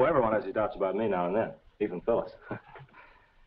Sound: chuckles

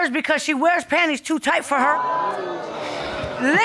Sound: audience exclaiming

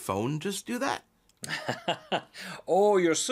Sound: laughs

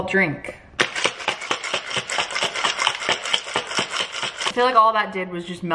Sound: drink shaking

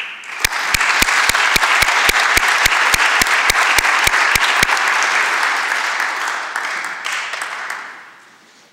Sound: applause

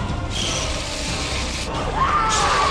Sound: chittering

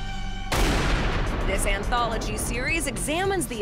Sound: gunshot

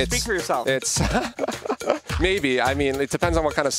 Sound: laughing

